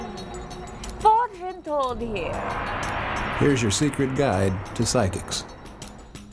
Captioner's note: woman speaks in foreign language